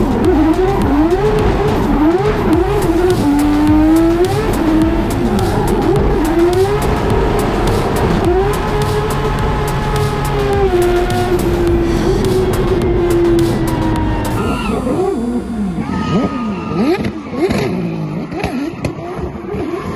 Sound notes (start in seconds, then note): 5.5 race car revving continues; 15.5 race car revving continues